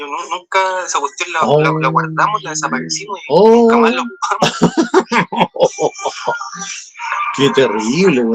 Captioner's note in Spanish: risas